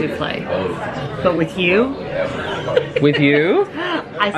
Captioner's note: laughs